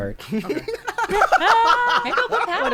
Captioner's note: players laughing; pat